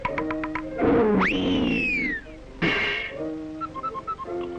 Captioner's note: roaring; tense music